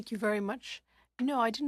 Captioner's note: speaking French